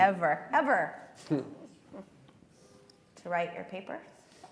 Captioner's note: all laughing